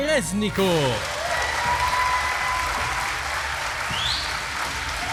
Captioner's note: audience applauding